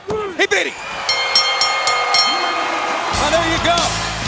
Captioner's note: bell rings